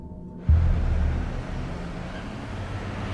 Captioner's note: car engines revving; birds chirping